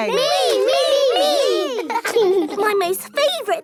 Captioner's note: laughing